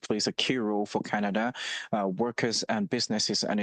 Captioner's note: speaking French